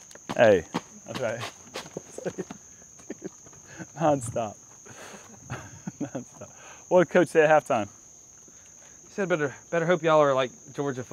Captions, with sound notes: -Hey. -I'll be all right. - [chuckles] None stop. What did coach say at halftime? -He said I'd better hope y'all are like Georgia